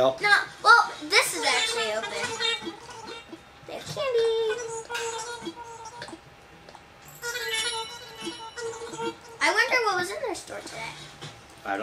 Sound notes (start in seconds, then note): 4.0 Nookling chattering; 7.0 bells chiming